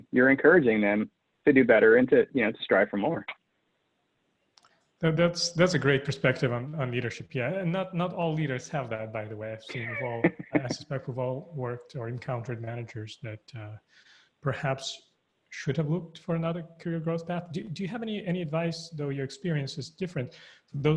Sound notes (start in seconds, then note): 9.6 laughing